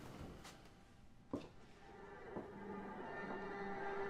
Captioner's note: footsteps